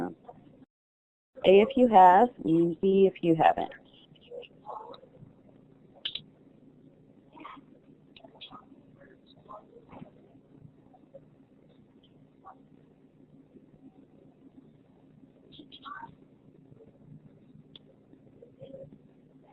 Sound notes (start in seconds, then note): 4.6 silence